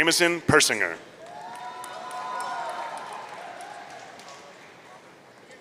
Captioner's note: audience cheering